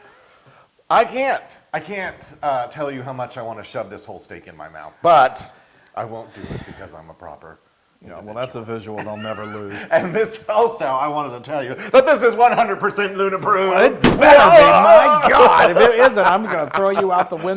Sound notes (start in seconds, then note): 9.0 laugh; 14.2 laugh